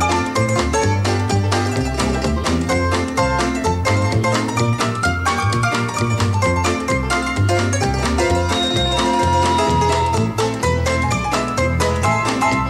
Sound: bell

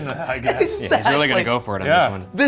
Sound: laughing

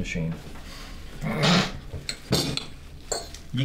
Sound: giggling

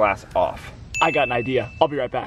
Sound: bell dings

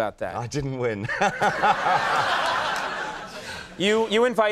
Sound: crowd laughing

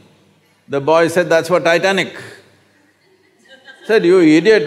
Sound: laughter

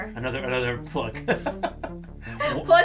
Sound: laughs

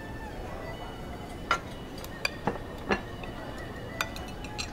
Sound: dishes clinking

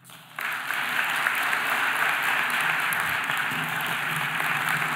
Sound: audience applauding

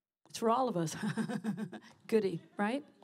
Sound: laughs

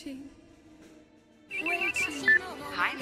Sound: phone Ringing

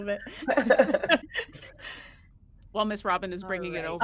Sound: person laughing

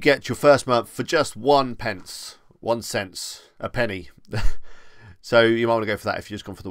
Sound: chuckles

